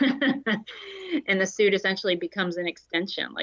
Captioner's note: laughter